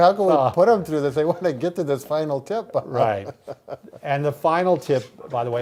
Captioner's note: laughs